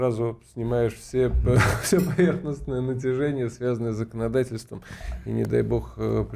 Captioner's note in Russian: смех